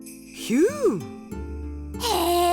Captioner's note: impressed whistle